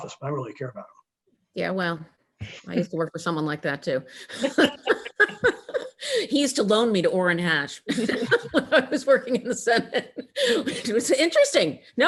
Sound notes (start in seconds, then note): 4.2 laughing; 7.9 both laughing